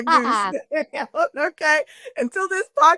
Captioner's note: laughs